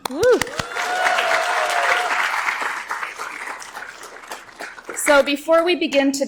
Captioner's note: audience applauds